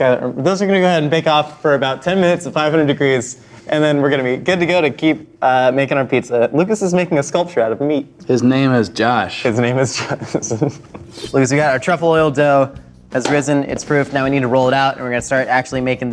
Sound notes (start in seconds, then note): 9.5 laughs